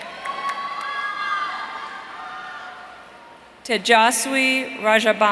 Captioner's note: audience cheering